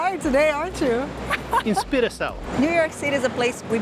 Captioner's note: in Portuguese